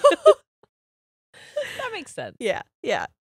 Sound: both laughing

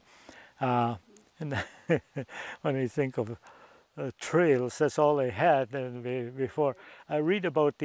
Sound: laughs

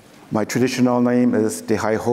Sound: none

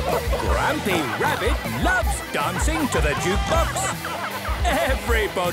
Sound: shouting

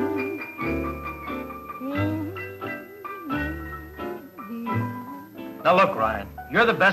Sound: humming

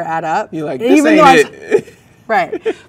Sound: laughs

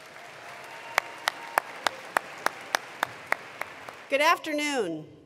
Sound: attendees applauding

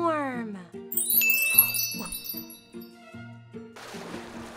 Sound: chimes ding; water splashes

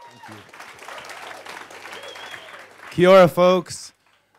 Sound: audience cheers and applauds

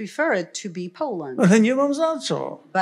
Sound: foreign language

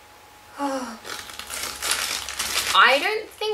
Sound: sighs again

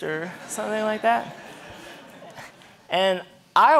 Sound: audience laughing

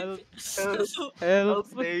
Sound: continues to cry for "help"; narcissist ass laughing; continues to cry for "help"

